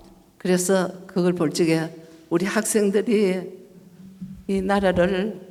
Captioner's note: speaking foreign language